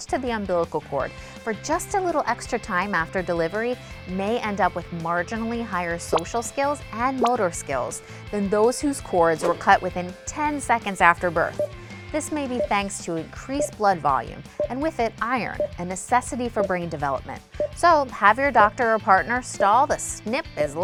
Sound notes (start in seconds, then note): 12.3 electronic timer beeping